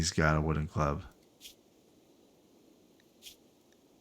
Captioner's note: silence